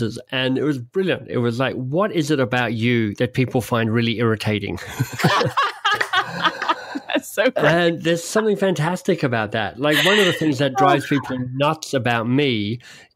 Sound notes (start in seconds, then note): 4.8 both laugh